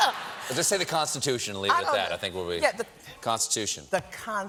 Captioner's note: laughter